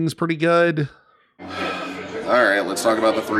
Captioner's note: exhales sharply